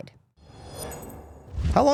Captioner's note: air whooshing